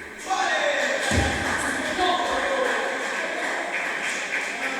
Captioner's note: applause